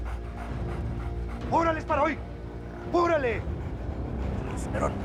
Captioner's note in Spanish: jadeo de los perros